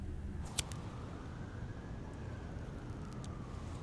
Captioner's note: lighter clicks